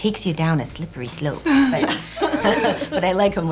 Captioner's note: laughter